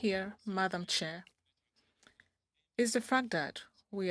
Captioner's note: speaking French